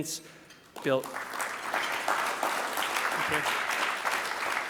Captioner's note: audience clapping